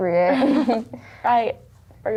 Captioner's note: laughter